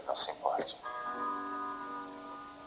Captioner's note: clock chimes